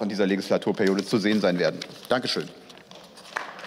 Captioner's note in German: Beifall